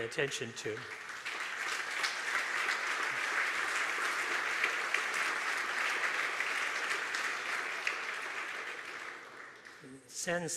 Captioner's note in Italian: applausi